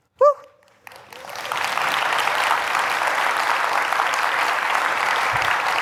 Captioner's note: applause